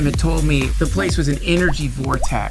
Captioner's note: energetic dance music; drips